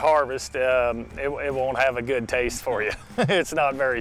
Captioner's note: laughing